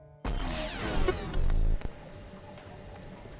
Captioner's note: grinding digital transition